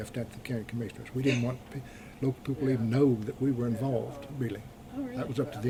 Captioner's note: laughs